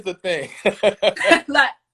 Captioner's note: laughs